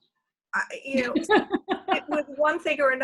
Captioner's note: laughs